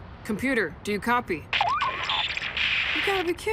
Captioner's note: radio static